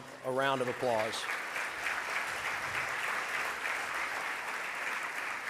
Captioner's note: audience applause